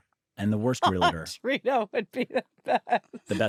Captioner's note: laughs